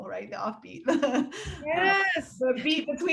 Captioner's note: laughing